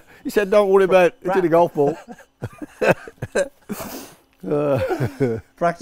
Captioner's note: still laughing